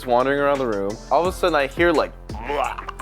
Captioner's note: throw up sound